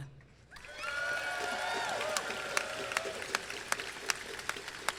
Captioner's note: crowd cheering and clapping